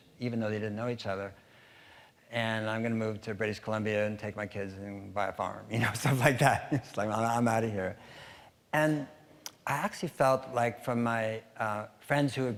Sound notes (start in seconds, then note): 6.5 chuckling